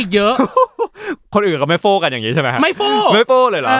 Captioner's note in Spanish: risas